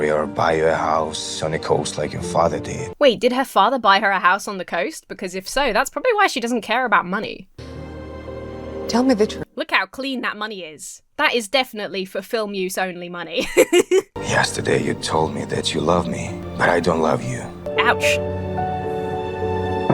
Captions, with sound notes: or buy you a house on the coast like your father did. - Wait, did her father buy her a house on the coast? Because if so, that's probably why she doesn't care about money. - Tell me the— - Look how clean that money is. That is definitely for-film-use-only money. (laughs) - Yesterday you told me that you love me. But I don't love you. - Ouch. (mournful music)